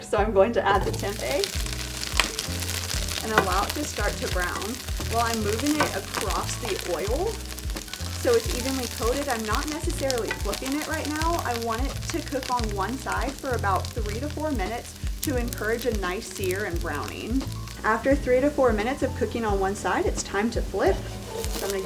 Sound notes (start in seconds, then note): 1.5 frying pan sizzles; 20.8 frying pan sizzles